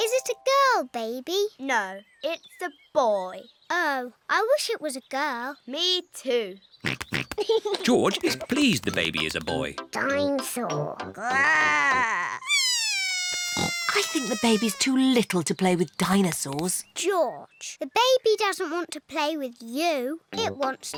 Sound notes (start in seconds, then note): 6.9 snorts and giggles; 11.2 bawls